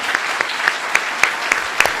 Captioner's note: applause